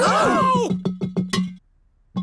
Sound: all gasp

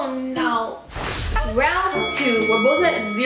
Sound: whooshing; dinging

